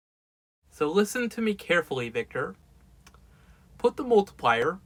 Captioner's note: sounding annoyed